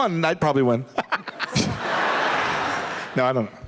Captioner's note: laughs